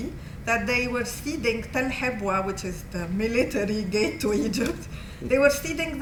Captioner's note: non-english